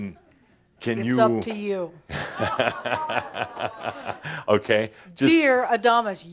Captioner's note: Adamus chuckles